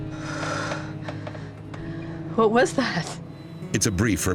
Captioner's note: sighs